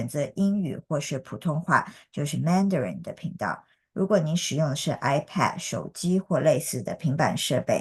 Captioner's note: interpreter continues speaking in a foreign language